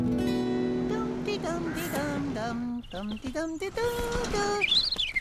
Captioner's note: humming; warbler Singing